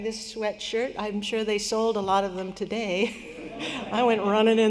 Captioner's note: laughter